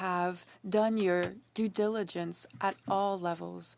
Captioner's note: speaking French